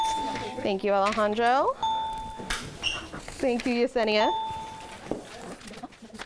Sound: ding; ding

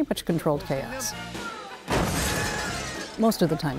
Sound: loud crash, pieces breaking

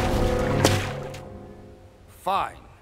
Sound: whipping

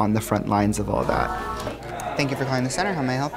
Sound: background chatter

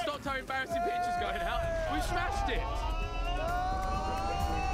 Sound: cheering

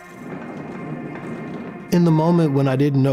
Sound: cart rumbling

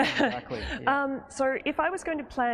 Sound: laughs

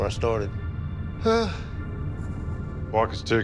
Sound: sighs

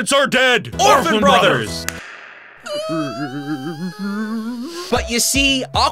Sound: sobbing

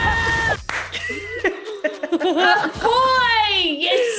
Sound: laugh

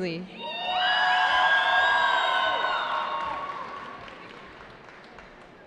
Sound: cheering

